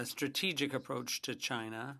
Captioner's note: speaking French